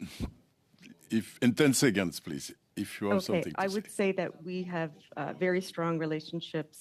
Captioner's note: speaking French